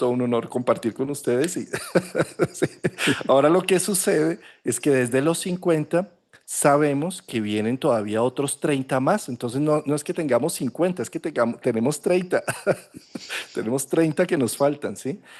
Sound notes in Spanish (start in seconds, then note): 1.6 risas; 12.3 risas